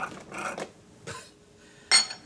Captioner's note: laugh